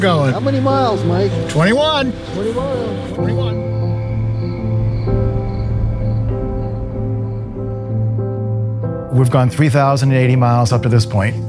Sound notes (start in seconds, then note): 4.8 crickets chirping